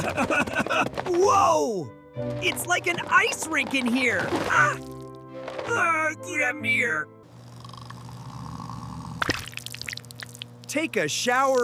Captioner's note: snorts